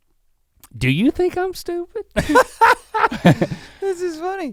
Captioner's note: Rhett laughs